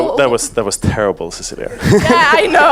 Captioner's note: audience laughs